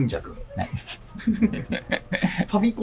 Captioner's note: laughing